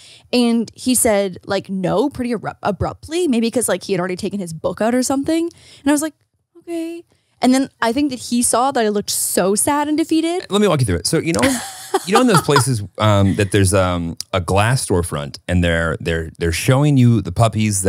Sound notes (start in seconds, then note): 11.3 laughing